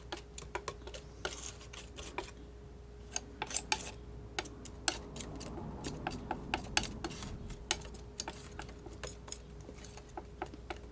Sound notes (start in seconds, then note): 6.9 scratching